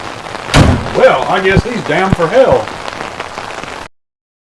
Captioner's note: none